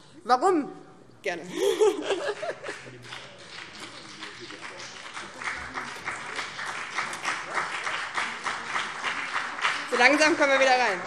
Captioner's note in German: Beifall BÜNDNIS 90/DIE GRÜNEN